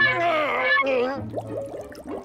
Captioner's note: groaning; bubbles popping